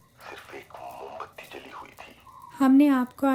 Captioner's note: radio